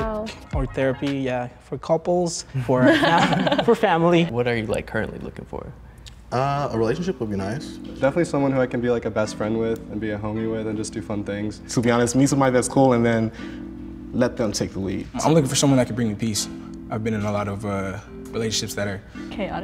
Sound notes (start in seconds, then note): 2.7 both laughing